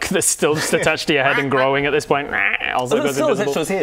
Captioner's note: quack quack